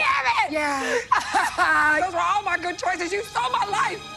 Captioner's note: sobbing